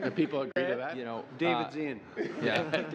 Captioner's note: laughter